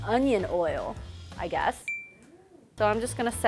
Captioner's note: ding; ping